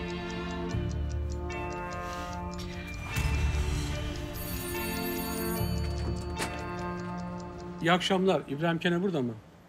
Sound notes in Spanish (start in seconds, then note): 4.2 Suena el timbre